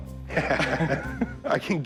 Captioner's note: laughs